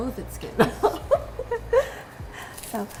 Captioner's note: laughs